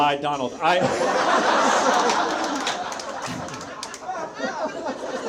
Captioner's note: audience laughs